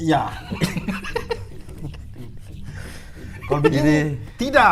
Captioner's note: giggling